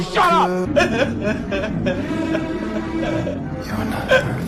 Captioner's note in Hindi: हंसी